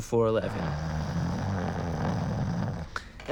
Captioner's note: snoring